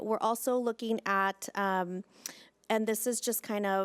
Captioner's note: none